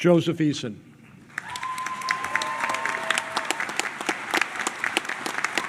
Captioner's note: clapping and cheering